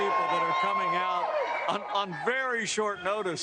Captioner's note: cheers and applause